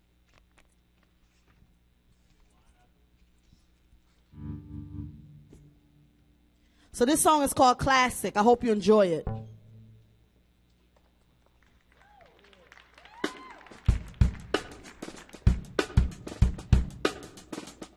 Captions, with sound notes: So, this song is called "Classic." I hope you enjoy it. (audience cheers and applauds) (smooth upbeat music)